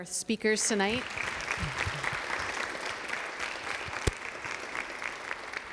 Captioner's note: audience applauding